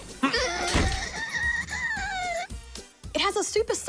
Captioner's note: ball whines